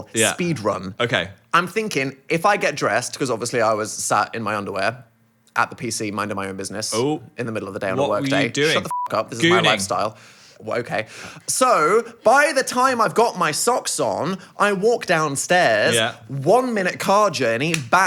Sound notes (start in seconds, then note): 8.8 beep